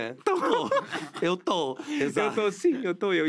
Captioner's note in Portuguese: risos